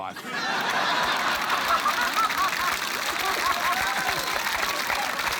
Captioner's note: laughter, applause